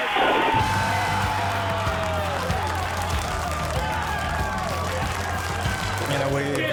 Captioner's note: cheers and applause